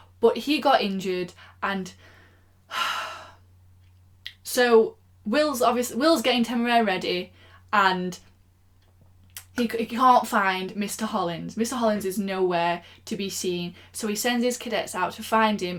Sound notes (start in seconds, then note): 2.7 sigh